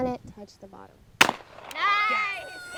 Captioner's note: shotgun bangs